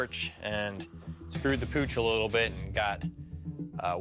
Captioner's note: none